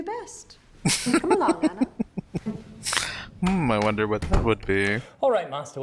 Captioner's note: laughing